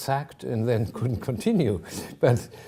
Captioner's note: chuckling